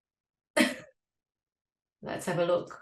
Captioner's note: laughing